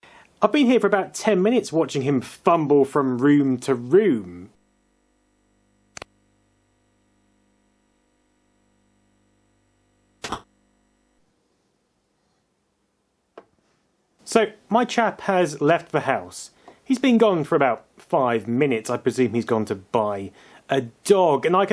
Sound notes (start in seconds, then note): 10.2 door slams